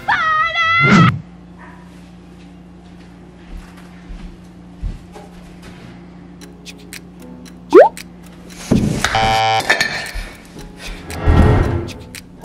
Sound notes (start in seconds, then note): 9.1 alarm blaring